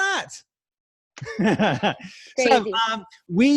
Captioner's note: laughing